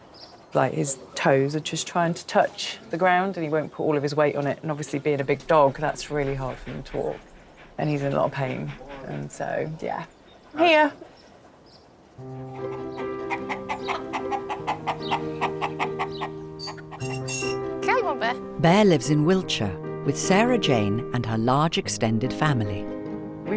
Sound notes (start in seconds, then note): 11.9 gentle music; 14.3 chickens clucking